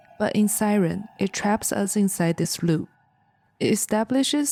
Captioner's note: siren